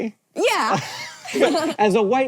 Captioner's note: BOTH laugh